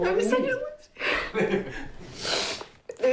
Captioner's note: sniffs